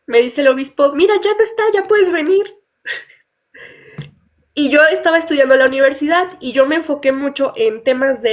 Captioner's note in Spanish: risas